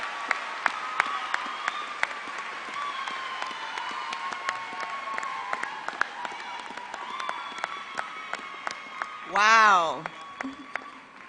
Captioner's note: applause